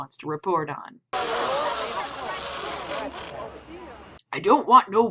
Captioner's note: literal nails on a chalkboard